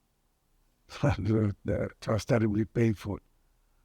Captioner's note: laughing